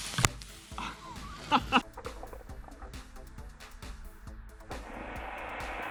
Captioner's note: laughs